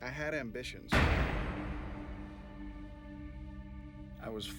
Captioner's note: gun shooting